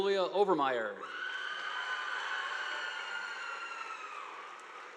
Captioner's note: audience applauding